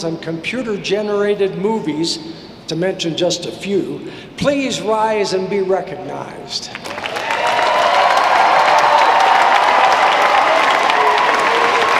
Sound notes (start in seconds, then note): 6.8 audience applauding